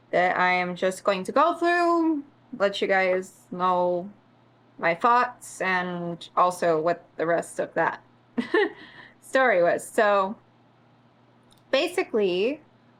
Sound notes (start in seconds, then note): 8.4 laughs